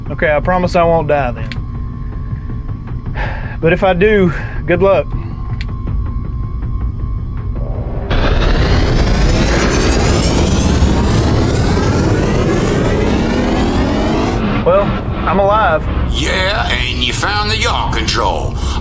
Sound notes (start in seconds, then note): 3.2 sighs; 7.6 power buzzing